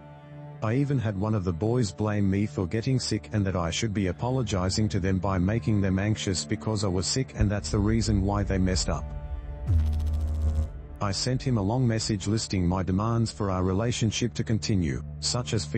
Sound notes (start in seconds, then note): 8.9 electrical noise